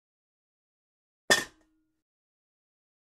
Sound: sound of pot

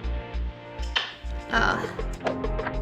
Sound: smooch

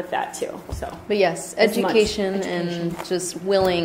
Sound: voiceover

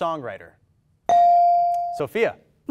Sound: ding

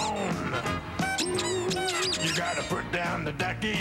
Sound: squeaking

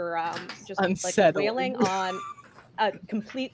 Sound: laughs

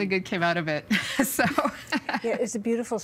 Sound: chuckling

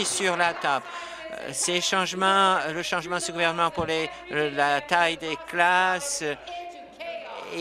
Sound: applause

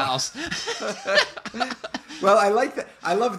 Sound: laughter

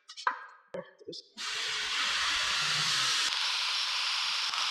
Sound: drill buzzing

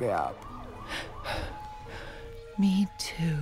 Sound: sirens in the distance

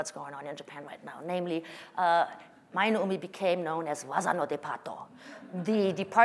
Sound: speaking japanese

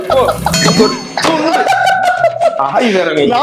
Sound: laughs

